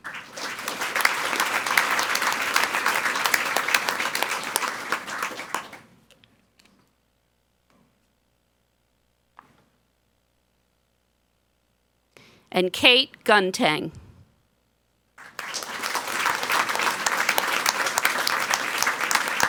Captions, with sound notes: (people clapping) And Kate Guntang. (people clapping)